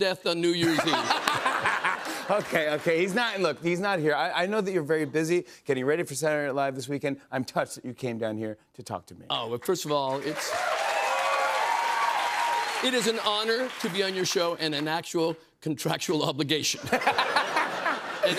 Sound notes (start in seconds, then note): 10.0 cheers and applause